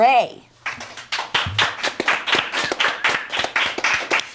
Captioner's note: people clapping